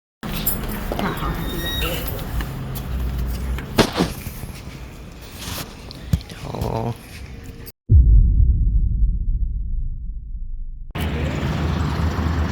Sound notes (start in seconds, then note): 1.0 door squeaks open; 3.3 door clicks shut; 7.8 cinematic boom; 11.2 fan humming loudly